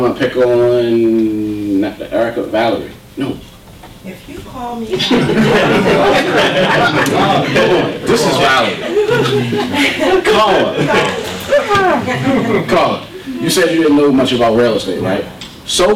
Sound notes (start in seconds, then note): 4.4 voiceover; 4.9 audience laughter; 11.1 laughter